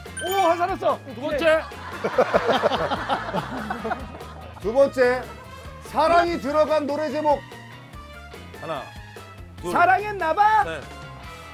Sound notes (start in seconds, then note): 1.9 laughing